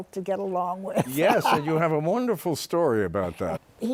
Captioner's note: laughs